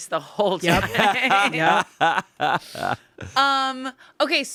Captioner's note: everyone laughs